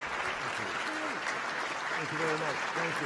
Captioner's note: applause